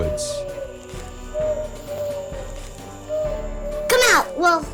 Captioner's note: owl hooting